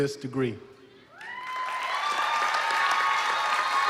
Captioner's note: applause